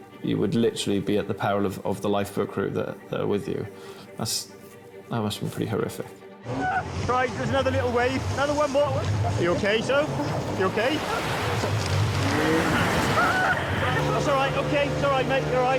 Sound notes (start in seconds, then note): 12.5 wave roars; 12.6 screams